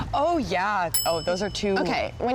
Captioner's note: bell tings